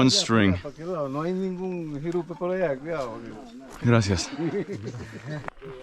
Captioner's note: speaks in foreign language